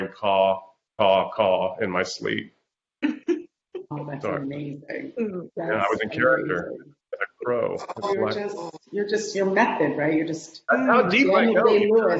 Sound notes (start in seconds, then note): 1.0 laughing